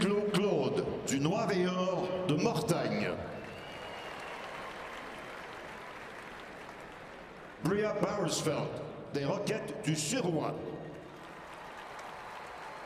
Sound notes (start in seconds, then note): 0.6 speaking French; 1.1 cheering and applause